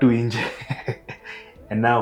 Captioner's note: laughs